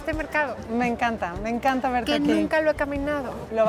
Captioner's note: speaking Spanish